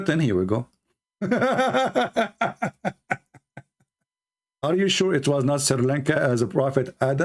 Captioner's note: Ketawa